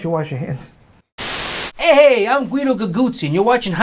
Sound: static hisses

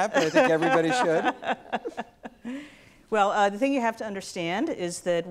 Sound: laughs

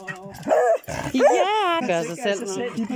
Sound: barking

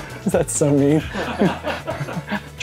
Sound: laughs

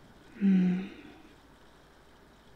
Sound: murmurs contentedly

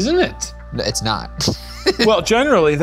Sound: laughing

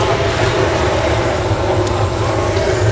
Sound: flames roaring

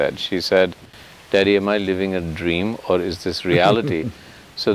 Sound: Sadhguru laughs

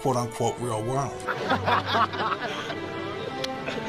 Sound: laughter

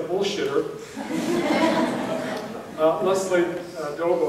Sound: audience laughing

